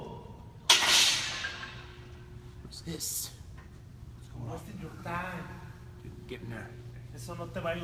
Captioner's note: clanking